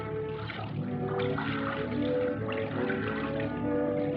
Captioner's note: sloshing